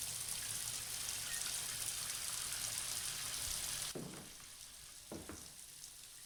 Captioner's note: water running